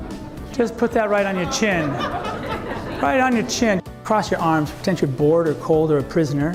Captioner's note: laughter